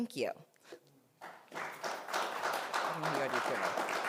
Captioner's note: applause